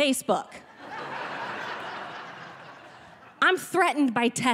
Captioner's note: audience laughing